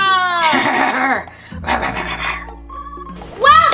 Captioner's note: growling